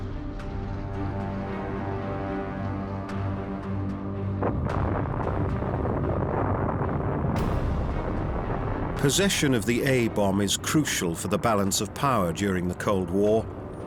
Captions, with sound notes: [explosion] Possession of the A-bomb is crucial for the balance of power during the Cold War.